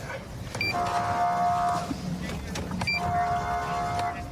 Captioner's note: horn blaring